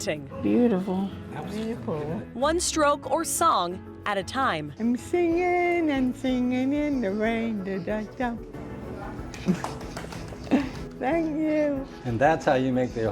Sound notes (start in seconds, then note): 9.2 listeners applaud